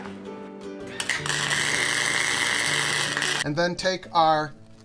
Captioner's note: torch zapping